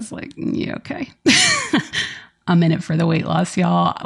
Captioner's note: laughs